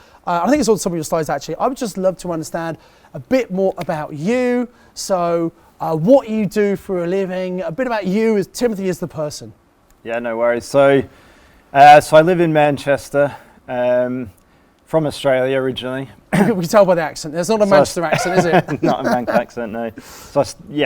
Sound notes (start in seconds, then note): 16.3 clears throat; 17.7 laughs